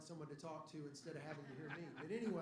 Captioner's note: laughter